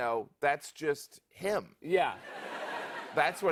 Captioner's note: laughter